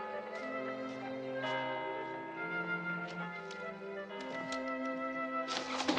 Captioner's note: clock chimes